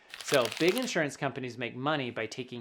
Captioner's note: paper rubbing